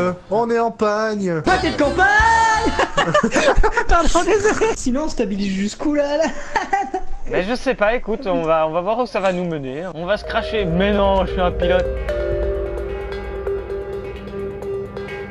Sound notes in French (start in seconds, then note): 2.5 rires; 6.8 rire; 12.0 Musique épique